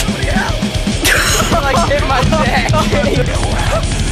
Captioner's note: laughs